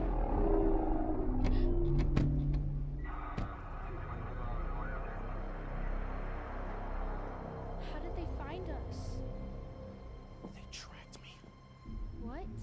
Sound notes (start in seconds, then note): 0.2 scary music; 1.4 Olive gasps